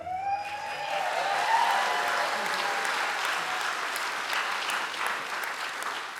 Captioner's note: audience cheers